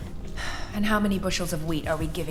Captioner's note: sighs